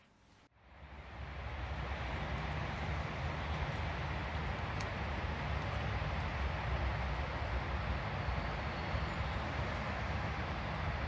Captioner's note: trees rustling in the wind, faint gremlin bird noises